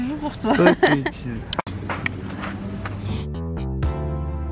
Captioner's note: laughs; laughter